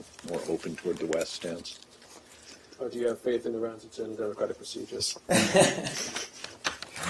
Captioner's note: laughter